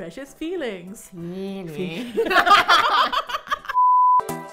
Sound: both laugh; upbeat Electronic Music

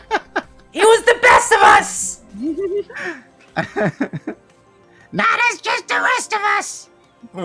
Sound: laughter

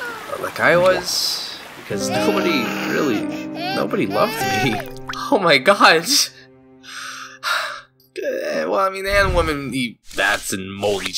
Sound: cries

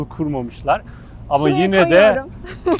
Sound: laugh

